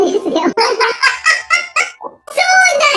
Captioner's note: laughs